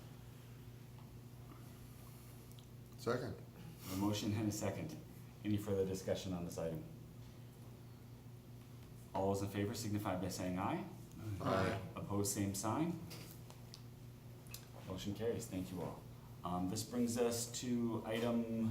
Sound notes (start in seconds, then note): 9.6 chorus of ayes